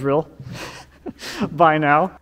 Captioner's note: chuckling